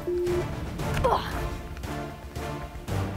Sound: grunts; intense music

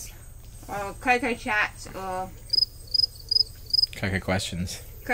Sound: crickets chirp

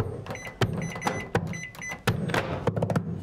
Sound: microwave beeping

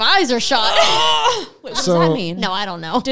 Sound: groaning

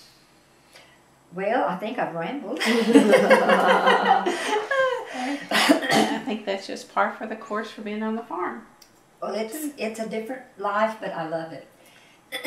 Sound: laughter

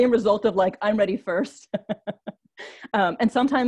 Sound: laughs

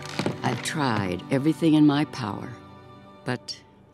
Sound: none

